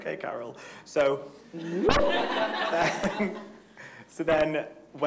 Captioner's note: everyone laughing